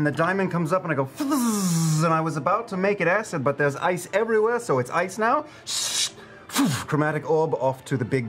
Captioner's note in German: Zischen